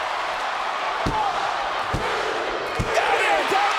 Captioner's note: crowd cheering; hand pounding